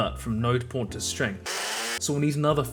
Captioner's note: blender noises